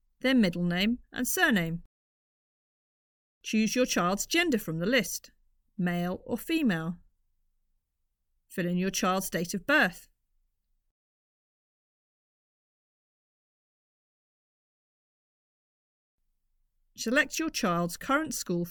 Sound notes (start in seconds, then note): 10.0 silence